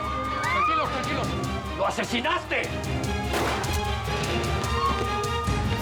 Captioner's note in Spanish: sigue el griterío